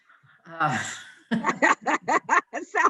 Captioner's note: laughing